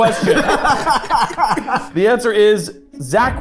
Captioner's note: group laughing